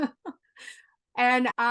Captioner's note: laugh